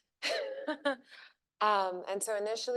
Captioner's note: chuckles